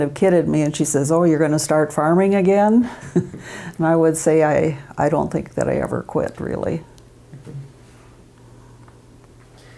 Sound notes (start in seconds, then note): 2.9 laughs